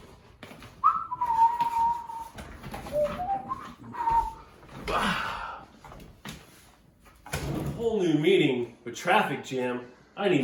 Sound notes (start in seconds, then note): 0.7 whistling; 4.8 grunts